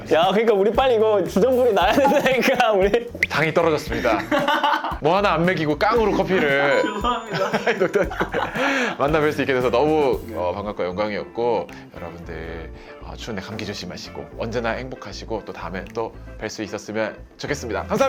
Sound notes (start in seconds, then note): 2.0 smacks lips; 5.0 choked up